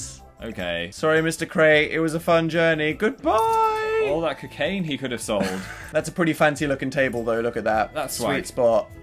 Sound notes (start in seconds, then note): 5.4 laughs